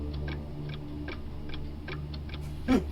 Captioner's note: clock ticking continues; Anne chuckling